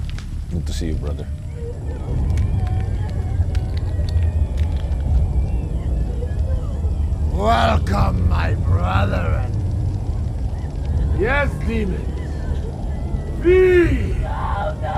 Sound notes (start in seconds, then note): 1.2 dramatic music; 1.5 woman whimpering